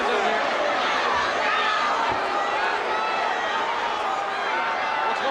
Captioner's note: crowd cheering